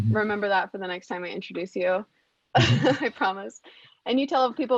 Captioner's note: laughs